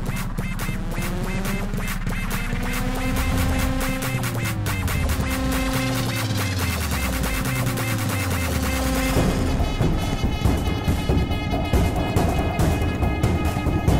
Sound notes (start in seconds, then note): none